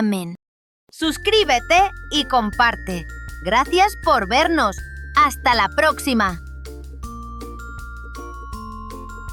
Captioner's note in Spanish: Voz en off